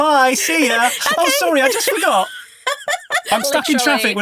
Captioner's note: laughing